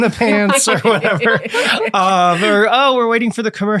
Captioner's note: all laughing